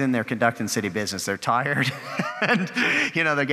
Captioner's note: chuckling